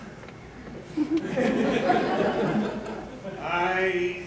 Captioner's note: laughter